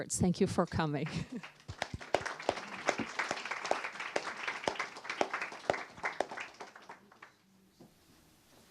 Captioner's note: applause